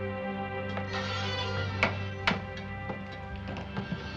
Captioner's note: door creaking open